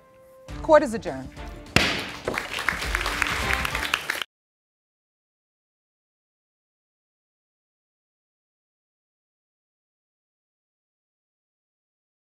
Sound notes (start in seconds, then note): 1.7 gavel strikes; 1.8 audience clapping